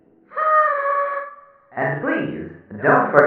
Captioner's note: party horn